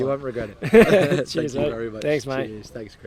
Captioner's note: both laugh